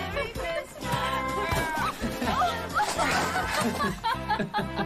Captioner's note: laughing